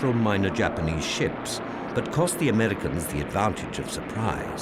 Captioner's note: none